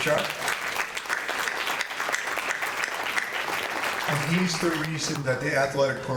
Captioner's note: audience applauding